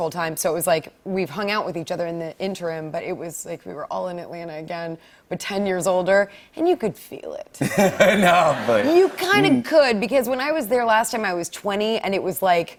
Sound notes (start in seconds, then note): 7.6 laughter